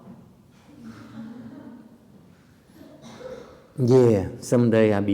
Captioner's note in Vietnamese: laughter